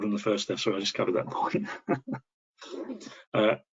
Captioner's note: laughing